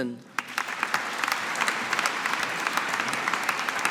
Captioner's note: audience applauding